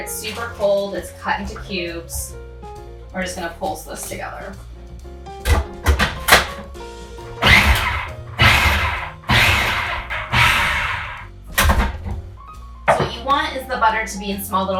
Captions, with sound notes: It's super cold, it's cut into cubes. We're just gonna pulse this together. (food processor blending) So what you want is the butter to be in small,